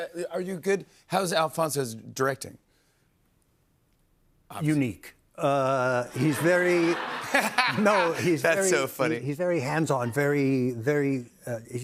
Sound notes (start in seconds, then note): 6.0 laughter